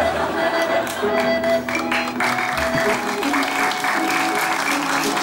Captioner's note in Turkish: Alkış sesleri